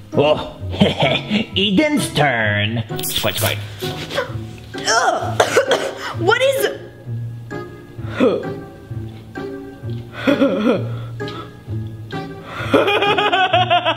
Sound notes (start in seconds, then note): 5.3 coughs; 8.4 laughs